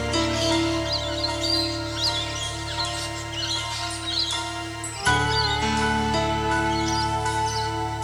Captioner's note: ambient sound, birds songs and chirps